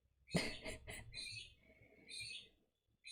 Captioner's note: laughs